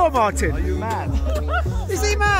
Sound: laughs

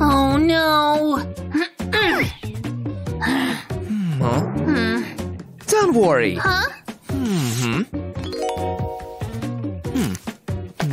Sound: groans

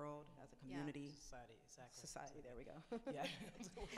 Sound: laughs

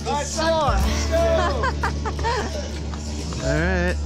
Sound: laughing

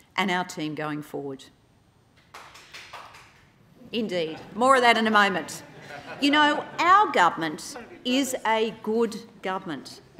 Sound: clapping

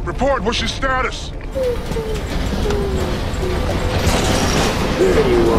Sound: whimpering

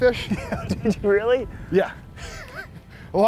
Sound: laughs

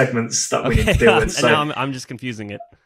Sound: laughs

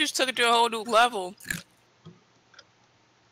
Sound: crunch

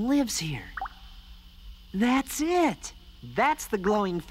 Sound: none

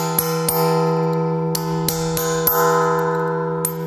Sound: the bell rings

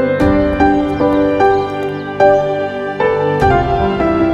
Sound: birds chirping

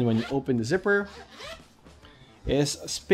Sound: zipper zips

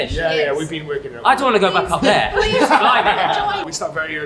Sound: laughs

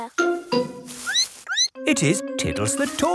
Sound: squeaks

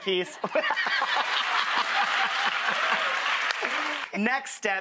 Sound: both laugh; audience applauds

